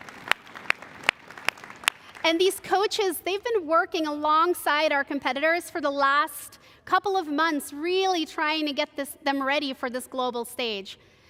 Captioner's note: cheers and applause